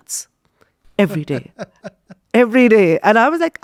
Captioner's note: laughing